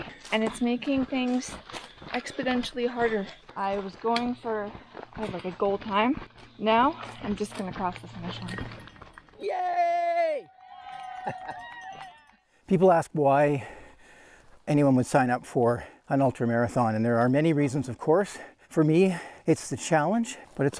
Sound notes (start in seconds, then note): 9.3 people cheering; 11.9 chuckling